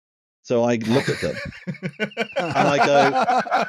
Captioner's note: laughter from all